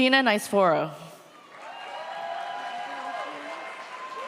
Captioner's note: audience cheers